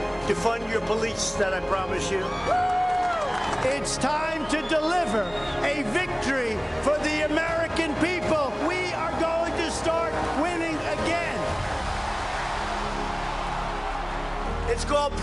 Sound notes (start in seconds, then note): 2.0 cheers and applause